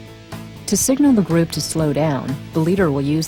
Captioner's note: voiceover